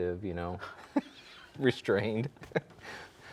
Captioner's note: both laughing